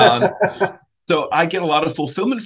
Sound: laughs

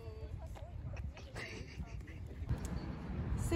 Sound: suppressed laughter

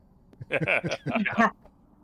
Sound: laughs

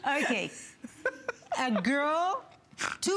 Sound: laughter

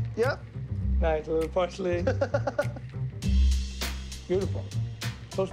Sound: laughing

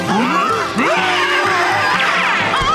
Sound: screaming

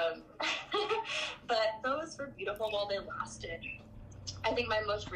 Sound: laughs

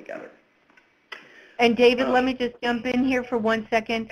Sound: voiceover

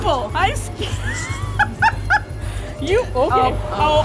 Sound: laughing

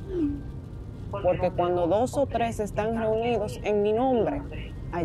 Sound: message notification chimes; continues in Spanish

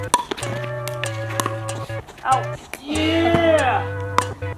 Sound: ball knocks against paddles; competitive music

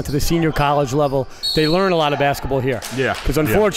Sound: whistle blows

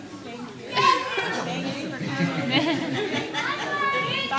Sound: indistinct chatter

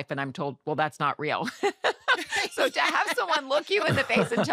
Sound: laughter

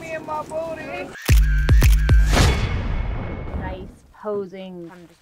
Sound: camera snapshots, upbeat music

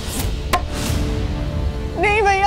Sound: thud

